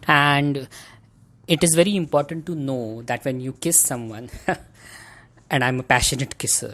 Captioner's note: chuckles